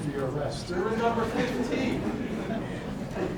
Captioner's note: audience laughing